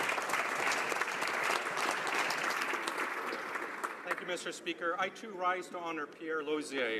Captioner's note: applause